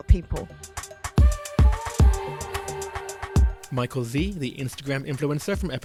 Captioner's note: voiceover